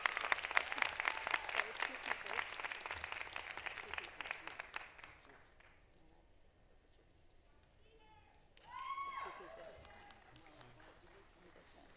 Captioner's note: applause